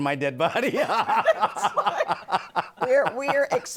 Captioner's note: laughing